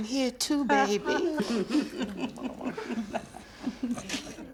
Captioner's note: all laughing